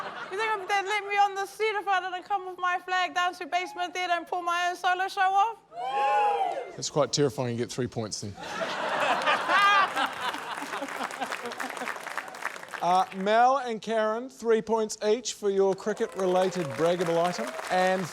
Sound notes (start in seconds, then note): 0.0 laughter; 5.8 audience whoops; 11.4 laughter